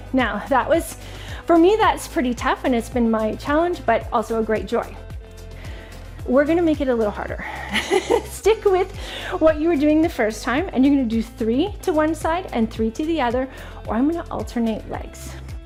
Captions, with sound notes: Now, for me, that's pretty tough and it's been my challenge, but also a great joy. We're gonna make it a little harder. (laughing) Stick with what you were doing the first time. And you're gonna do three to one side and three to the other, or I'm gonna alternate legs.